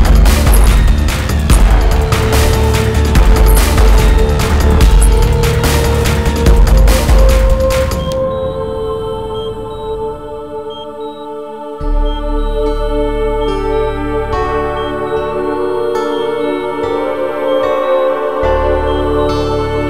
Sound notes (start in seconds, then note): 8.2 Monitor beeping